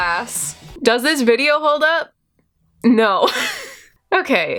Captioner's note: laughs